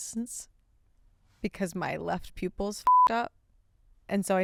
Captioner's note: beep